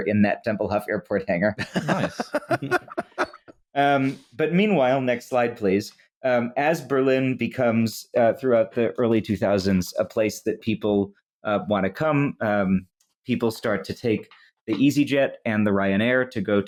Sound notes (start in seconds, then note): 1.6 laughter